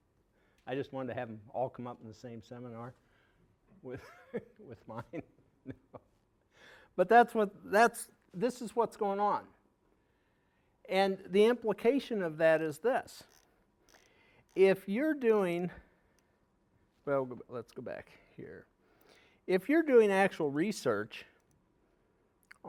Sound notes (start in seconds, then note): 5.6 laughing